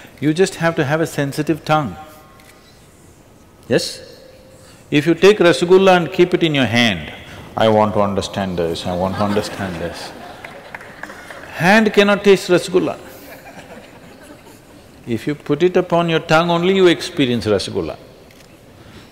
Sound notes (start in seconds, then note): 8.8 few Laugh; 13.0 few Laugh